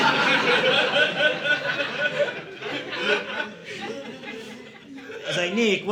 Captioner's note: audience laughing